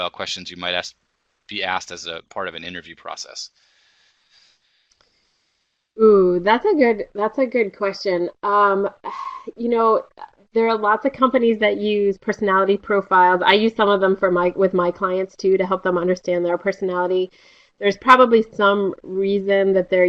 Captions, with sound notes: questions you might be asked as part of an interview process? Ooh. That's a good question. [SIGHING] You know, there are lots of companies that use personality profiles. I use some of them with my clients too to help them understand their personality. There's probably some reason that they're